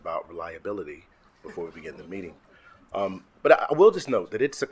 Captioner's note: attendees chuckling